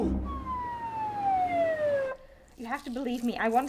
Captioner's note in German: Sirene klingelt